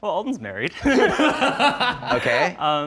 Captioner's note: laughing